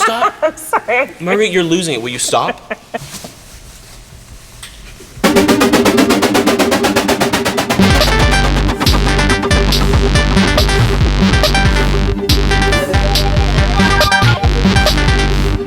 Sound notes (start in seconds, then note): 4.7 electric whirring; 7.9 upbeat techno music